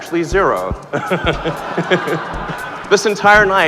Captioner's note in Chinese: 傻笑